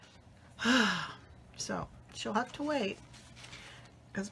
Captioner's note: sighs